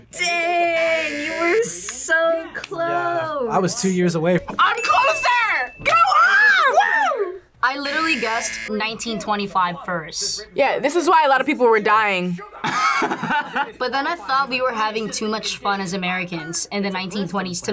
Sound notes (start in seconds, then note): 7.7 buzzer rings; 12.6 laughs